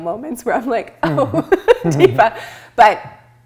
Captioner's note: laughs